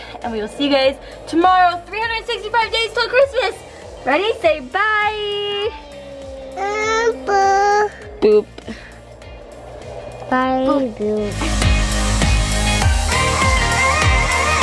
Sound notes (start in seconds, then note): 5.6 fusses; 11.7 upbeat music